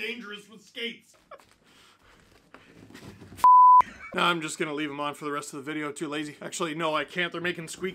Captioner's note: beep